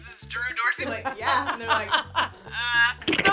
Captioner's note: laughs